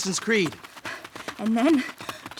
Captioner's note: also panting